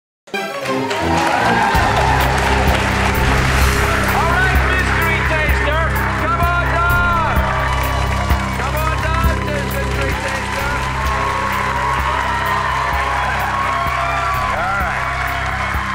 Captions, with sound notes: (suspenseful music) (audience applause) All right, mystery taster, come on down! Come on down, mystery taster! (audience applause) All right.